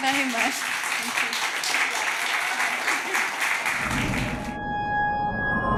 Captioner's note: applause